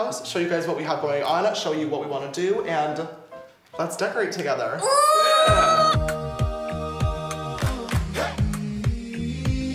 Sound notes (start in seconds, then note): 4.8 shrieks; 5.4 calm music